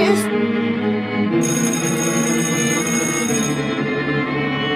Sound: school bell rings

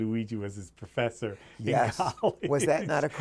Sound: laughs

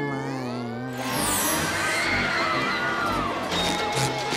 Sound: riders screaming

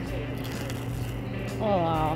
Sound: crunching loudly

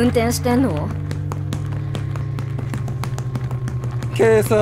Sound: clopping of increasing speed

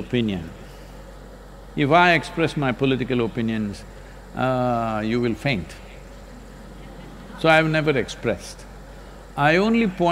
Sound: laughter

